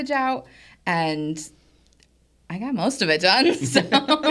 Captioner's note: laughs